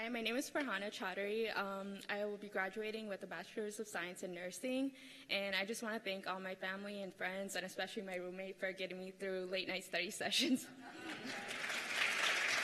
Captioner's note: cheers and applause